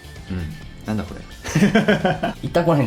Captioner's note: laughs